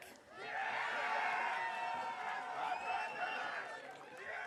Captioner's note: audience cheering